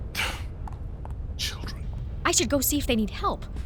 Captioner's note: under breath